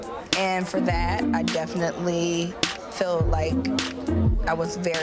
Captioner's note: suspicious string music; people chattering